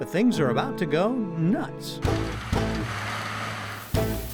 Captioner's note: loud machinery noises